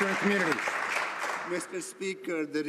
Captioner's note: some Applause